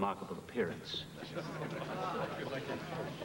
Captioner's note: scattered laughter